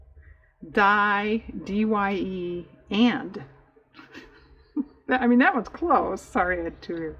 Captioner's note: laughs